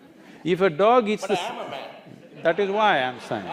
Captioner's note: laughter